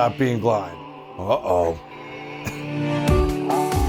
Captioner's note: chuckles